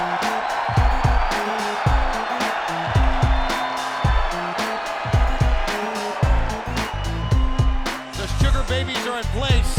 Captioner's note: crowd cheering